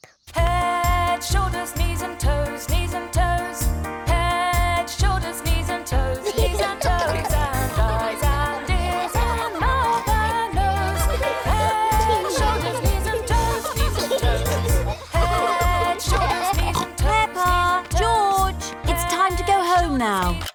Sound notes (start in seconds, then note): 6.4 giggling